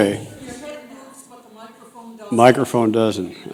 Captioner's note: voiceover